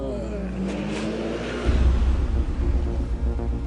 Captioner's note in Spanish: Ruido de vehículo